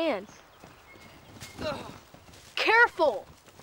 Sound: boy grunts

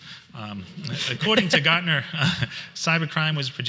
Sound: laughs

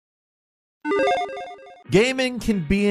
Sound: electronic chiming

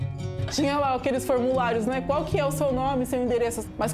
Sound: non-english speech

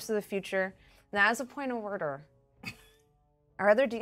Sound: speaker chuckles

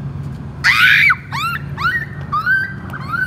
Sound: screaming

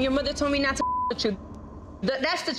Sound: beep

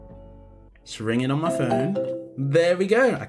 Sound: phone ringing

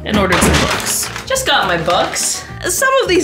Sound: door clacks

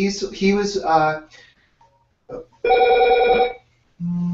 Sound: phone rings

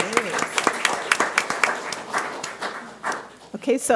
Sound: audience applauds

